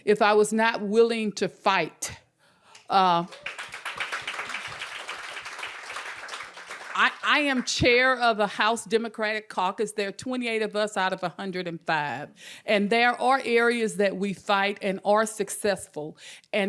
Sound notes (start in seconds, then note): 3.2 audience applauding